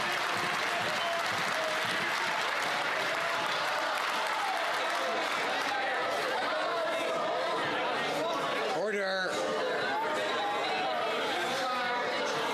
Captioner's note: some Applause